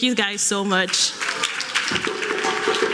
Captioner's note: applause; cultural drumming